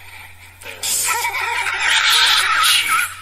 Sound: voice laughs

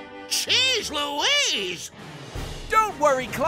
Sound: none

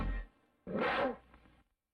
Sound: Mimsie mews in a jaguar's roar

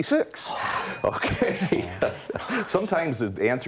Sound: laughs

